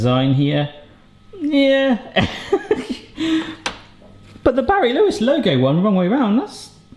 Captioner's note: laughs